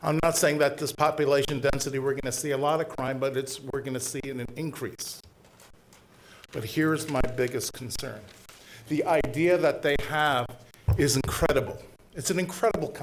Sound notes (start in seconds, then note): none